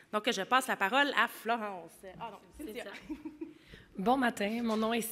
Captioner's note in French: glousse